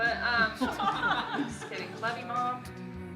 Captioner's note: laughing